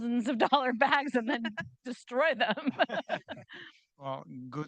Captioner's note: chuckling